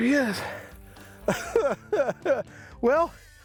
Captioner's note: chuckles